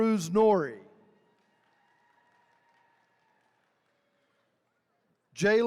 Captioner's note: attendees cheering